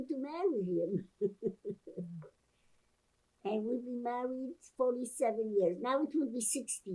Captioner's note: laughing